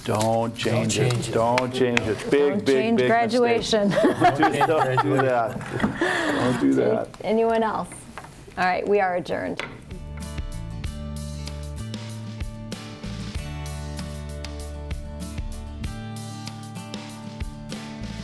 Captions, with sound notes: don't change it. - Don't change it. - Don't change it, big, big, big mistake. - Don't change graduation. (laughing) - Don't do that. - Anyone else? All right, we are adjourned. (light pop music)